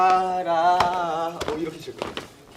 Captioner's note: smack! Smack!